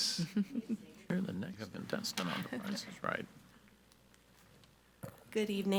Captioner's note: member speaking faintly